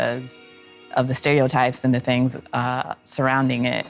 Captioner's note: none